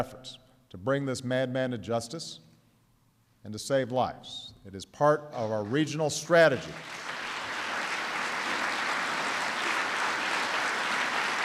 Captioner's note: applause